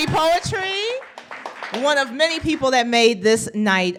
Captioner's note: applause